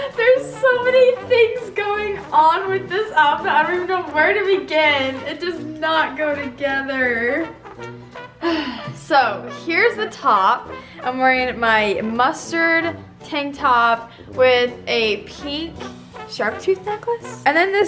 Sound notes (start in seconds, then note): 8.4 sigh